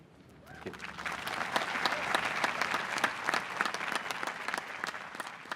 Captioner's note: appaluse